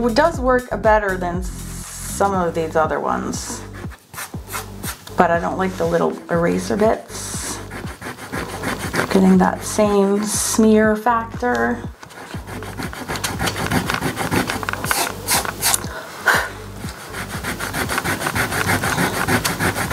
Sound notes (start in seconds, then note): 6.4 eraser rubbing; 11.9 eraser rubbing; 15.0 palm rubbing; 16.3 blows; 16.8 eraser rubbing